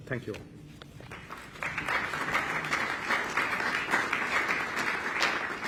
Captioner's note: applause